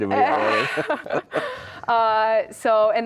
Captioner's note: laugh